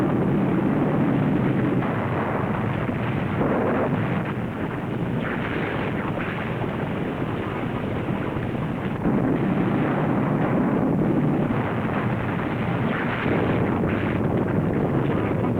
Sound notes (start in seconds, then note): none